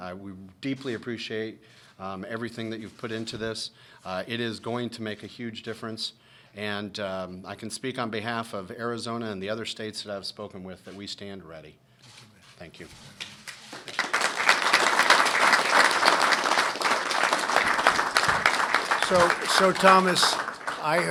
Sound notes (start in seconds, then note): 16.1 applause